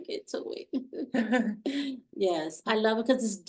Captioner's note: chuckling